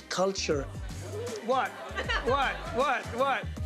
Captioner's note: laughs